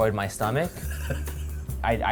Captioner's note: laughs